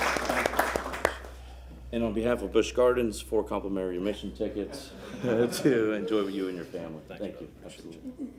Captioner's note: applause